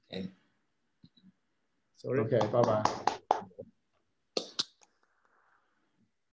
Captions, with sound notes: - Sorry. - Okay. Bye-bye (clapping).